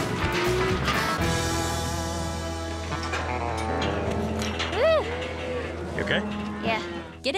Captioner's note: cows moo, bang